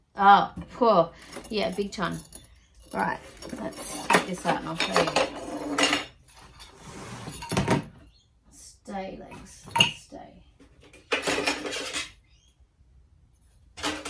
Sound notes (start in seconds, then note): 6.1 heavy plastic slides along concrete as light metal parts clank and clunk; 11.0 more light metal clanking and moving against plastic and concrete